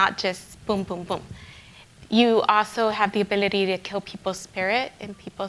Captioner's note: speaking in Spanish